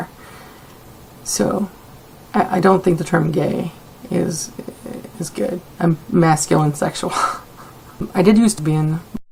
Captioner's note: chuckle